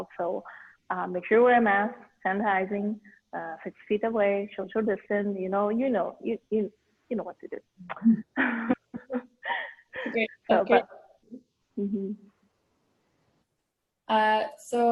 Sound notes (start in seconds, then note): 7.9 chuckles